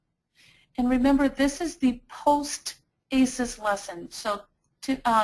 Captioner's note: voiceover